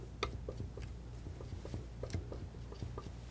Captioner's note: tapping